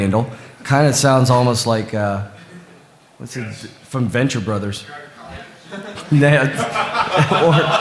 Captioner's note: laughter